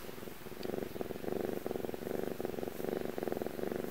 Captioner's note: soft purring